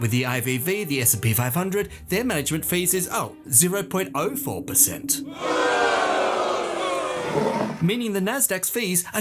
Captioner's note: crowd boos